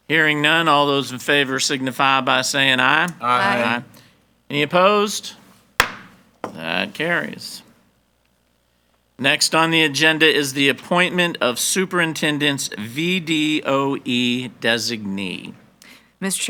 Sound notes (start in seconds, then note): 5.8 gavel banging